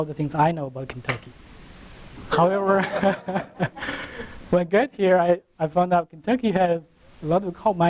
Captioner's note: laughter; laughter from audience